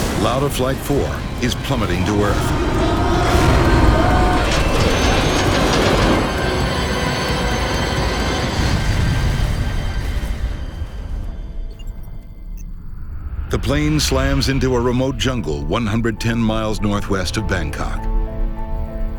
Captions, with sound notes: Lauda Flight 004 is plummeting to earth. (plane engine roars) (plane crashes) The plane slams into a remote jungle 110 miles Northwest of Bangkok.